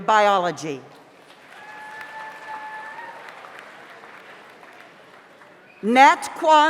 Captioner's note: audience applauds; audience cheers